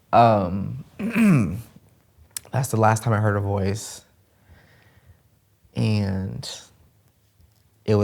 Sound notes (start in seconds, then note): 1.0 clears throat